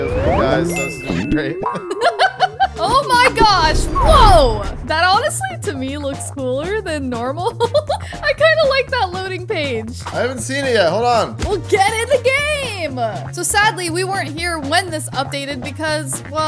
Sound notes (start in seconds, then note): 1.5 chuckles